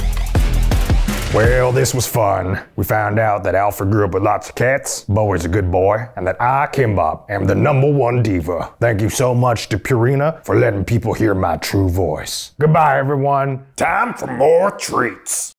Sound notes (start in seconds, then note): 1.3 in A Gruff Voice